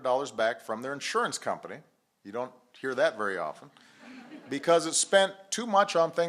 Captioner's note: laughter